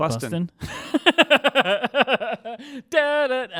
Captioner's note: laughing